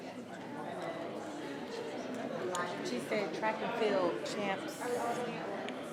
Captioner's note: attendees chattering continues